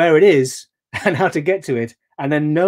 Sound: chuckling

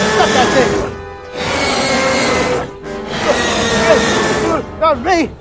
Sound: tyrannosaur Growls

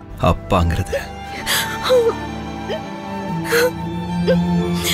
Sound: crying

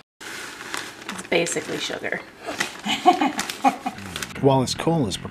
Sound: mom laughs

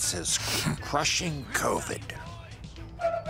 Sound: sniffles

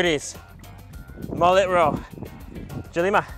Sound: speaks in foreign language

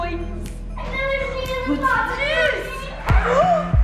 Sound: kids excited in the background

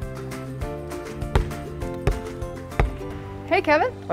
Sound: upbeat music; basketball bouncing

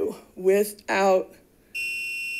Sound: buzzer chimes

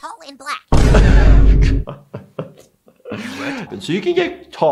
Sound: laughs

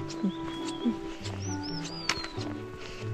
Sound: birdsong♥️

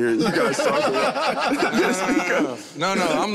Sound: all laugh

